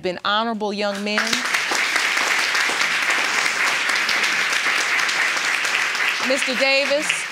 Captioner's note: audience applauding